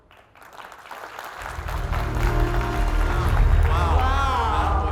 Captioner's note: audience applauds